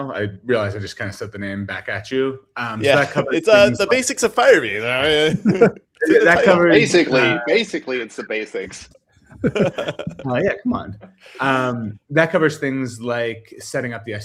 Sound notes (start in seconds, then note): 9.3 laughs